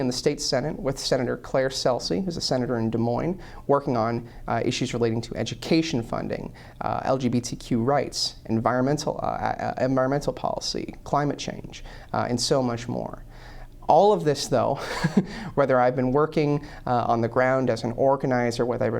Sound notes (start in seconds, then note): 14.7 laughter